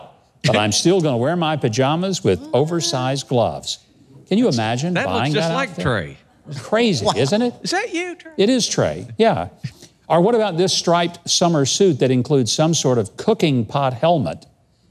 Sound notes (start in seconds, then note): 9.5 chuckles